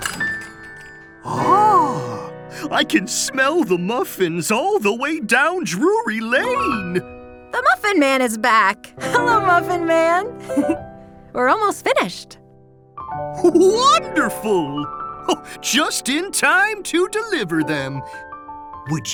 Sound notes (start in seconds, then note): 0.1 bell dings; 10.4 giggles